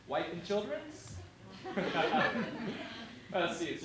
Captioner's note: laughter